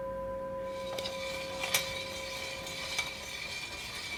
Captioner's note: machine whirring